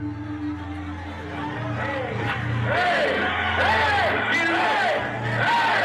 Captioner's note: crowd shouting